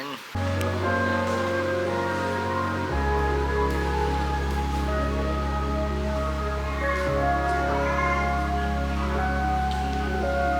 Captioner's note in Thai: ปรบมือ